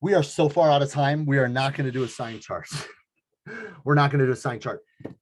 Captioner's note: laughs